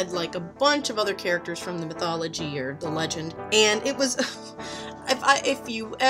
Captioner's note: laughs